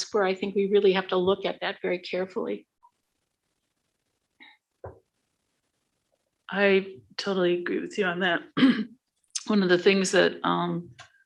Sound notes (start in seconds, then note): 8.8 clears throat